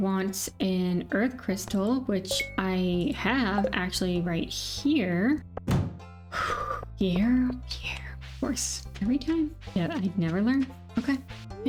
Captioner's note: door slams